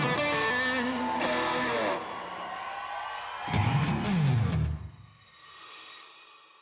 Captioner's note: crowd cheers